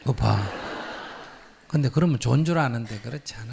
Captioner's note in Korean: 청중 웃음